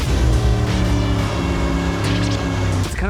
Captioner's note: revving